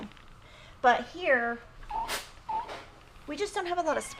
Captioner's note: press whining